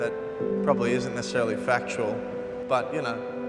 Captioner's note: feedback reverberating